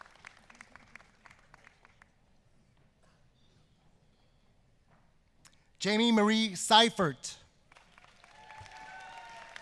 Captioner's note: applause